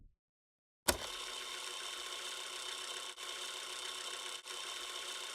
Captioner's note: VHS Rewinding Sound Effect